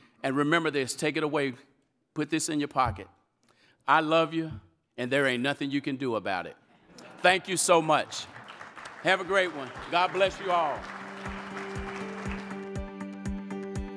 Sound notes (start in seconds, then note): 7.5 audience applauding; 10.4 instrumental music